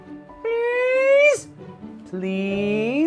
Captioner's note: speaking elvish